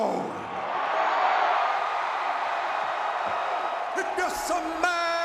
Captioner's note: crowd cheering